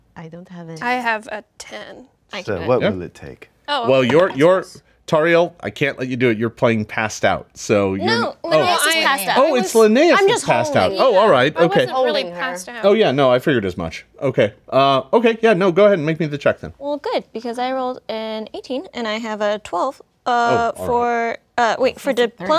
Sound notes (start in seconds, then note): 4.3 dice clatters